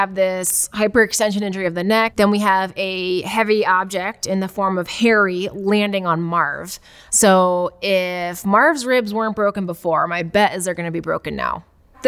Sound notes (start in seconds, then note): none